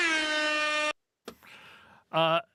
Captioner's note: horn blares